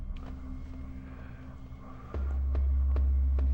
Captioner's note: deeply breathes